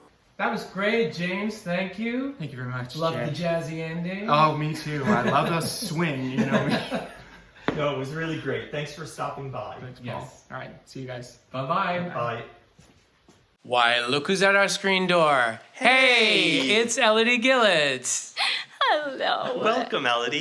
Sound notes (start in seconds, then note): 4.9 laughs